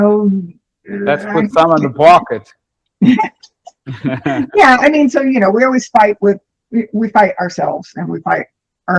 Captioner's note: laughter